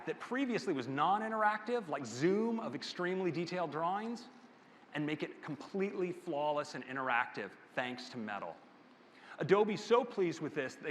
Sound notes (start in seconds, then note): none